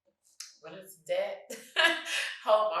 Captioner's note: chuckles